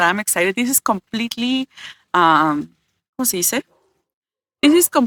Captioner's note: Spanish